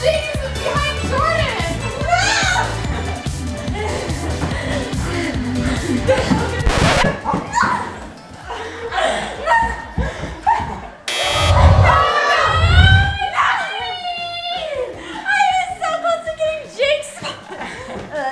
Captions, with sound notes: (record scratches) (buzzer) - I was so close getting Jakes spot.